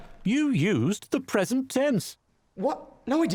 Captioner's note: voiceover